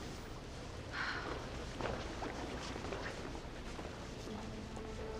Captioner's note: Merritt sighs